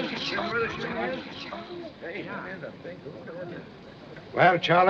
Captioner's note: chattering